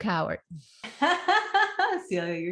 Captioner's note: laughing